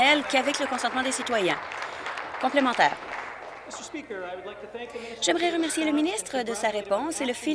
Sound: applause

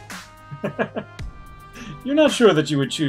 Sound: chuckles

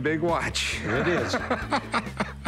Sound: laughs

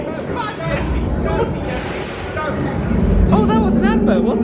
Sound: guests chattering; creature growling

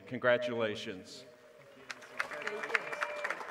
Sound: applause

